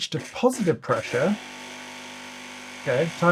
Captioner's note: machine hums